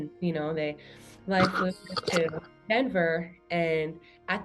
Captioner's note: brushes mic